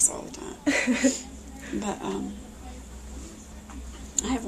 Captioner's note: laughs